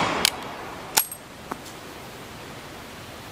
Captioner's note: gun bangs; gun cocking